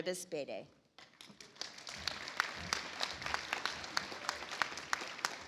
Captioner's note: audience applauds